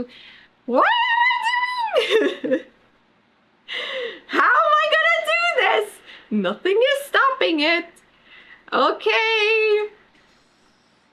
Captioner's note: laughs